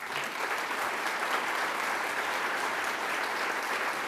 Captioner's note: audience applauding